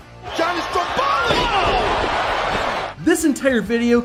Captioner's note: body thuds